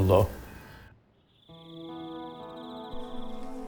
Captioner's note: frog croaks